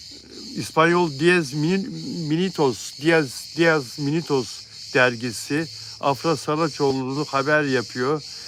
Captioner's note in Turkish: homurdanır